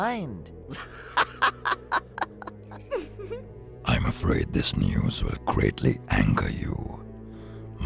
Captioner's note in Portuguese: Risada